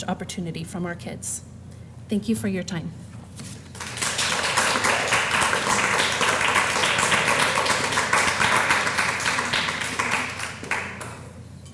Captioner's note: applause